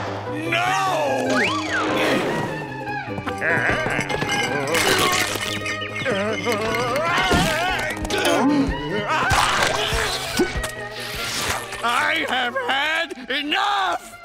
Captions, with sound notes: No! Ah-hah. [groaning, screaming] I have had enough!